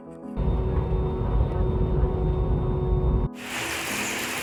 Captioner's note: airplane engine roaring